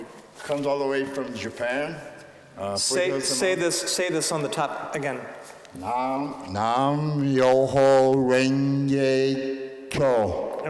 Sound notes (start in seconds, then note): none